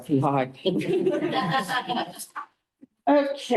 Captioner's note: laughter